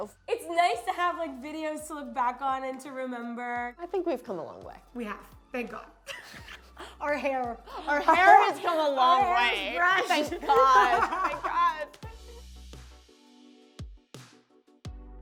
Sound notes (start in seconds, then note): 6.1 laughing; 11.6 laughing; 12.2 warm funky music